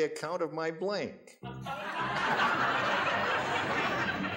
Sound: audience laughs

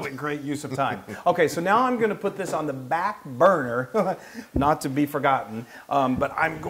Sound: laugh

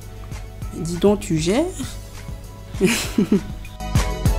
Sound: haha

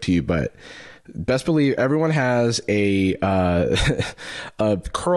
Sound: laughs

